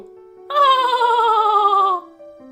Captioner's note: laughs